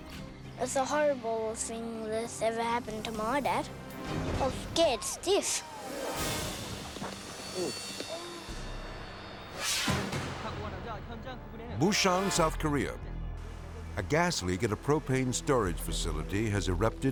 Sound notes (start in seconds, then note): 9.5 air whooshes; 10.2 reporter speaking Korean